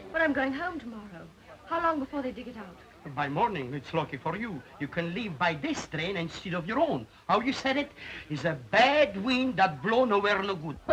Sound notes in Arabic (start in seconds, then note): none